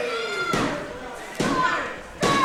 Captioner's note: hand slapping